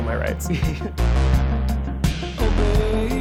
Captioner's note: chuckles